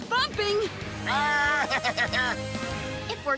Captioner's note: bleating